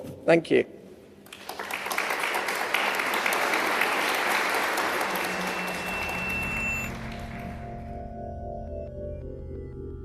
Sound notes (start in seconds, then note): 1.2 applause; 5.0 drone-like music